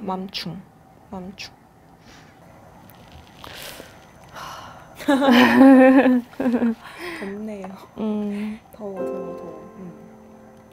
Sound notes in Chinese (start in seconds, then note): 4.3 嘆氣